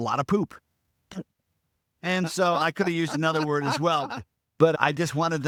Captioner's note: laughing